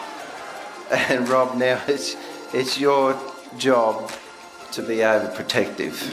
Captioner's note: audience laughs and cheers; laughs